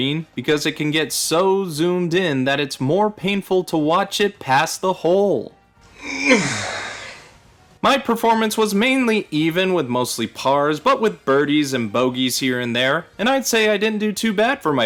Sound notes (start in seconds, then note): 6.0 grunt